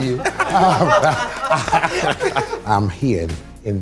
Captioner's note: participants laughing